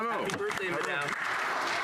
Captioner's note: speaking French